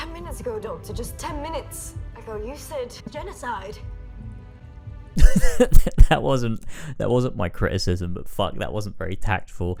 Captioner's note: laugh